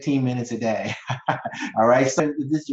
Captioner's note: chuckling